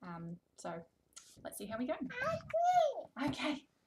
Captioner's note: babbling